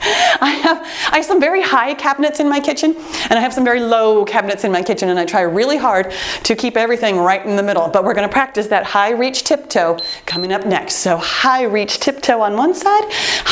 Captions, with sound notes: I have some very high cabinets in my kitchen, and I have some very low cabinets in my kitchen, and I try really hard to keep everything right in the middle, but we're gonna practice that high-reach tiptoe (timer beeps) coming up next. So high-reach tiptoe on one side,